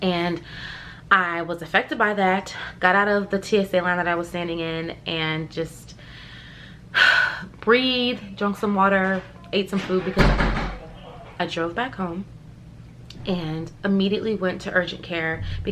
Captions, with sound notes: I was affected by that, got out of the TSA line that I was standing in and just (inhales) breathed, drunk some water, ate some food because- (banging) I drove back home and immediately went to urgent care,